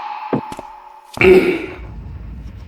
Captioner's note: cough cough